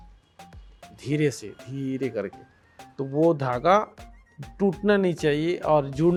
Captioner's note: speaking foreign language